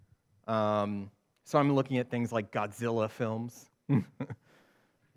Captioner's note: chuckles